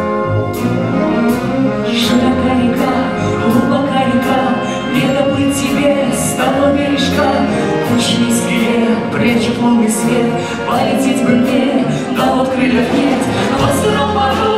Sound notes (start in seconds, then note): none